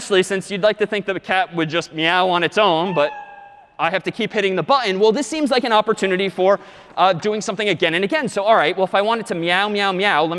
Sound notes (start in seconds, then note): 3.3 meow